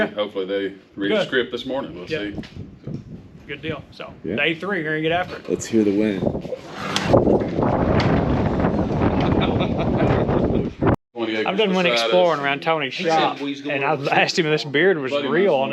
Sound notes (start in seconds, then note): 11.6 hunters laugh; 11.6 wind whooshes loudly